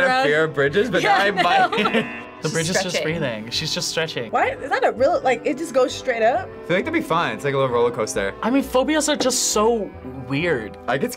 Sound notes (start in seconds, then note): 1.0 laughs; 1.8 buzzer rings